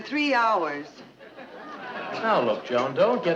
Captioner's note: audience chuckling